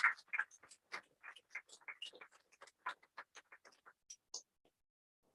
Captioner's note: applause